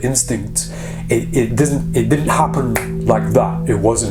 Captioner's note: snapping fingers